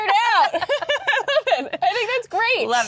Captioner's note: both laughing